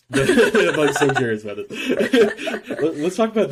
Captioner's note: laughing